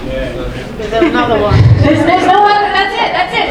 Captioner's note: audience agreeing